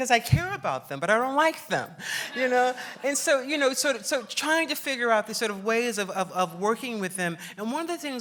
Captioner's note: laughs; laughs